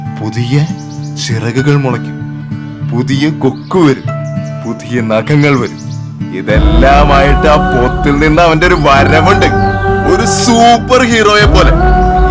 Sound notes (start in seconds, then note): none